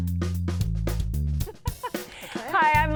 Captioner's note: laughs